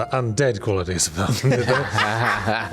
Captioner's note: laughter